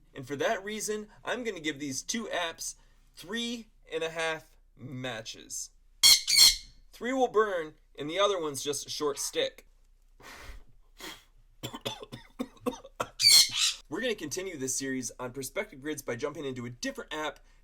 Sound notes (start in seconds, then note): 5.9 birp! Birp!; 9.8 coughing; 13.2 bird squawks